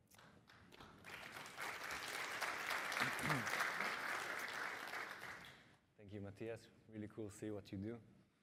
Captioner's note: applause